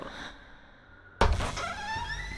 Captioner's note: door squeaks